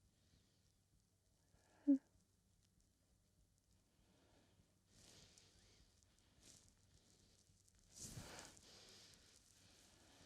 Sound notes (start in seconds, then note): 5.2 Camille breathing